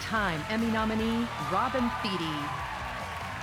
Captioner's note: cheers and applause